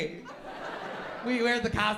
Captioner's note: laughter